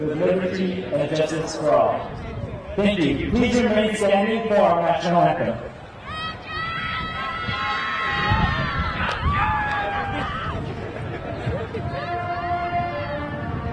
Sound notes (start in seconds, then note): 5.7 crowd yelling; 12.0 orchestral music